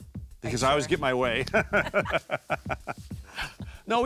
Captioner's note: laughing